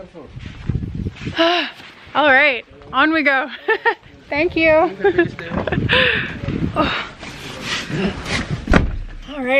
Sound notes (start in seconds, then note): 1.3 sighing; 3.6 laughter; 6.1 sighing; 8.6 car door slamming